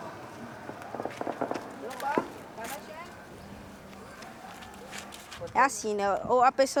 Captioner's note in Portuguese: fogos de artifício ao fundo